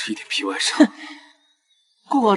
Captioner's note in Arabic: يضحك بسخرية